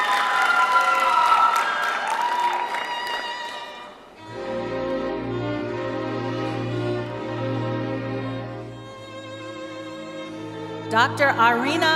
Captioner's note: cheering and applause